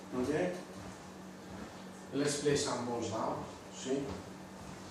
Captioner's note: none